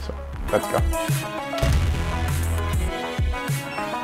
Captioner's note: relaxed music playing; door slamming; elevator beeping